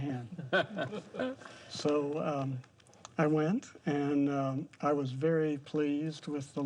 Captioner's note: chuckling